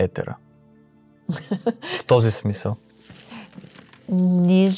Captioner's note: laughter